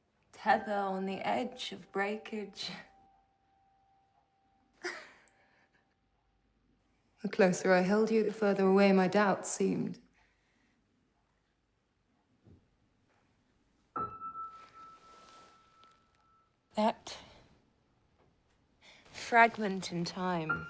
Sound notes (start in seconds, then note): 4.8 laughs; 13.9 gentle piano music